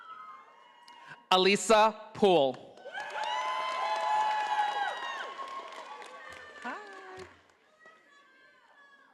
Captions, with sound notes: Alyssa Poole. (audience applauding)